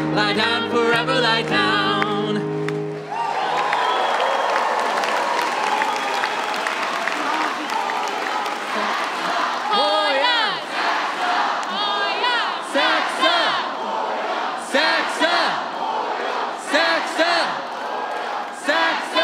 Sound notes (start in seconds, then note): 4.2 cheers and applause